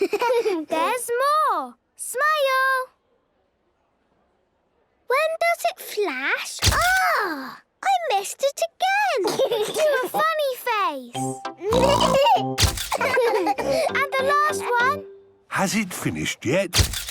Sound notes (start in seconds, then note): 0.0 giggling; 3.8 silence; 6.7 camera clicks; 11.7 giggling; 12.9 all laughing; 16.8 camera clicks